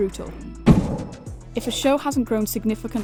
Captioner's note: metal thud